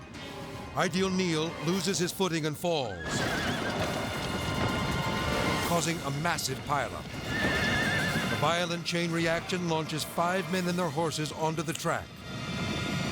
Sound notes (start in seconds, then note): 7.4 horses neighing